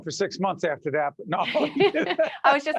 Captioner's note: laughing